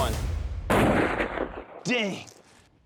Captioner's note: gun shot